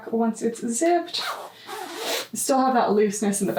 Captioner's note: zipper zipping